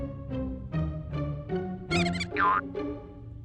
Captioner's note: mouse squeaks